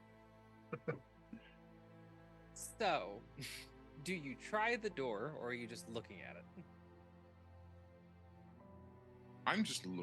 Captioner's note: laughing